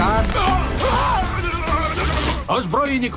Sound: electricity crackles

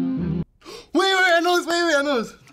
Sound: humming; gasping

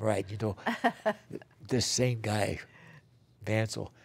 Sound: laughter

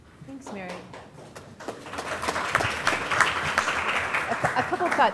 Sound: applause

